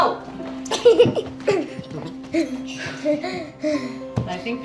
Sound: laughter

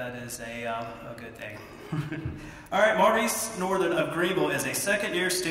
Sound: laugh

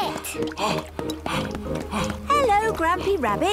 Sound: panting

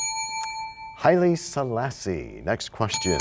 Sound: bell rings, time expires

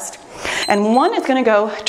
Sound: timer beeps

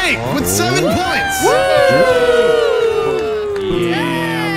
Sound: all cheering

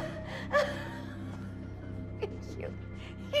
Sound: laughing

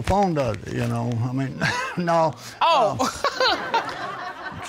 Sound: laughs

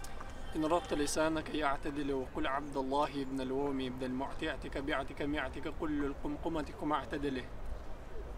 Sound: speaking Arabic

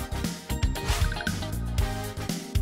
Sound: whoosh

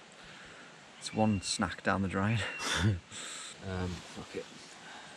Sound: chuckling

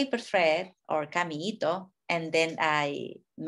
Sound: speaking in a foreign language

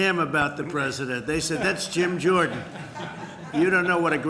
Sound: laughter

